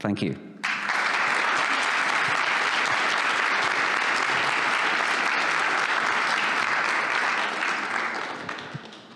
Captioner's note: applause